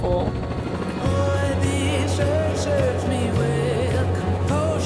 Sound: speaking faintly

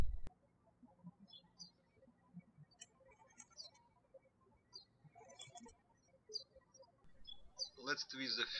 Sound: birds chirping

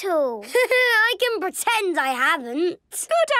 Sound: Danny laughing

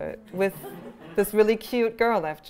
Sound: laughter

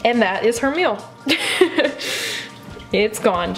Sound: laughter

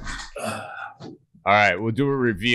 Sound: sharp exhale

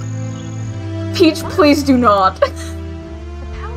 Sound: laughs

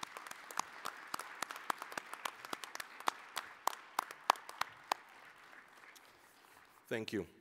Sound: applause

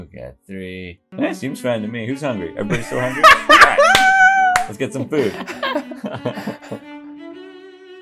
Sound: laughter

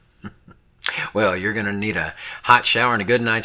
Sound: chuckling

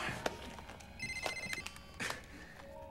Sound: phone ringing

